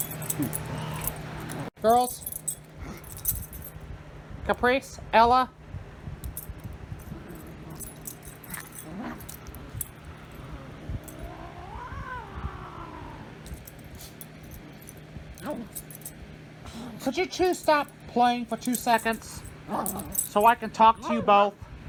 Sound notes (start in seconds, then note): 0.0 Caprice growls; 0.0 Ella barks and growls; 5.7 Caprice yowls; 7.0 growl